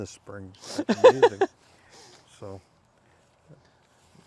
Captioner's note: laughing